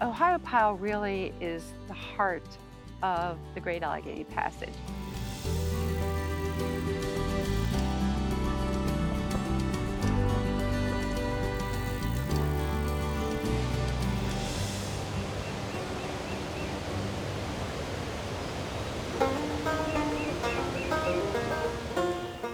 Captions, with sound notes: Ohiopyle really is the heart of the Great Allegheny Passage. (river rushing) (bright folk music)